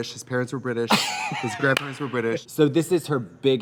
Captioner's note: Katya laughs; Katya claps